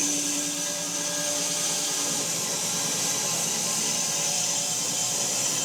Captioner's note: saw buzzing continues